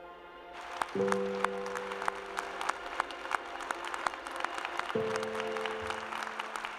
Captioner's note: applause